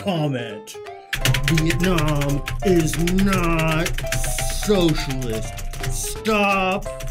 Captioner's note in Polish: dźwięki klawiatury